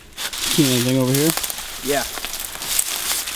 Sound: voiceover

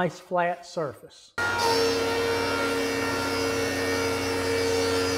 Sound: planer cutting

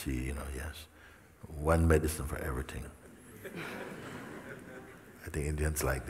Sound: smijeh

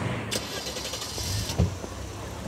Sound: engine starts

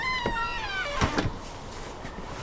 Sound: door closes

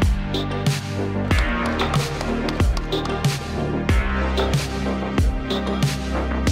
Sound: applause

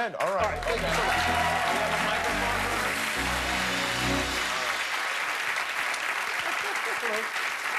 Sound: cheers and applause

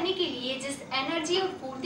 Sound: hindi

